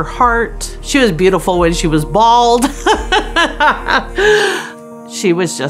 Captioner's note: laughs